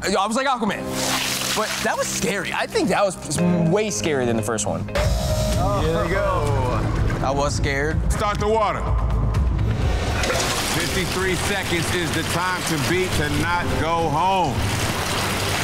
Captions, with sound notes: - I was like Aquaman, but that was scary. I think that was way scarier than the first one. (lift whirring) - Oh, ho-ho. - Here we go. - I was scared. (dramatic music) - Start the water. (water splashing) 53 seconds is the time to beat to not go home.